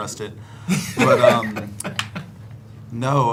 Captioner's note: all laughing